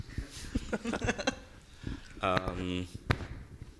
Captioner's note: laughing